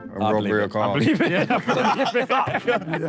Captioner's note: Sidemen laugh